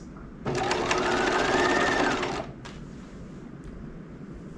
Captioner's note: sewing machine whirling